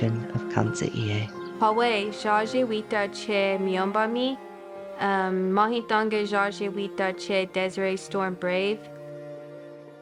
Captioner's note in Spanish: hablando kaw